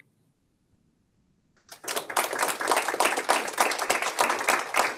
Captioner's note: audience applauds